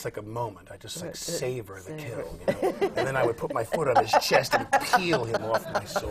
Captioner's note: laughter